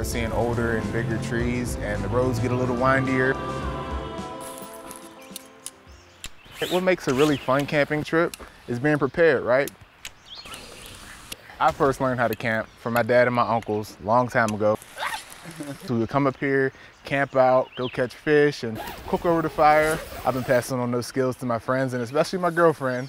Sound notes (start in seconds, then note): 6.2 poles click; 6.4 tent rustles; 9.7 birds chirping; 14.3 metal clinks; 18.7 zipper zipping